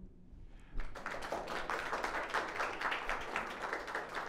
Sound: audience applauding

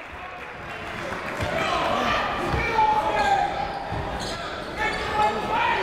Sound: crowd talking; coaches yelling

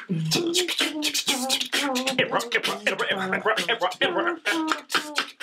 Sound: Mr. Max beatboxing; vocalizing

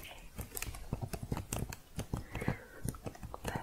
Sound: typing continues

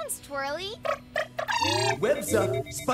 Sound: trilling

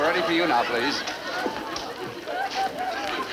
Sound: audience laughing

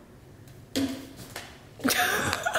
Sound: laughing; smacking forehead

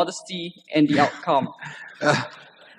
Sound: laughter

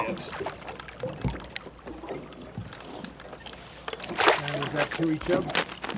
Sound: fish splashing

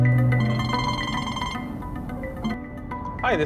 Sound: phone ringing

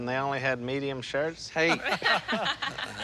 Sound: laughter

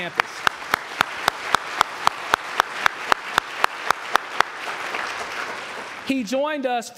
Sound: applause

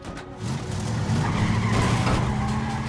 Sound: tires screeching

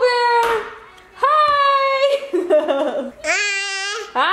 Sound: laughs

